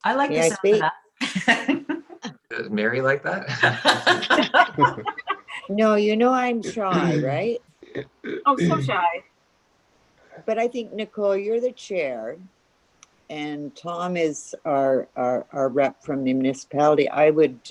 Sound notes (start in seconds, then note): 2.5 laughing; 2.6 all laughing